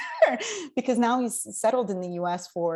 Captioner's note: laughs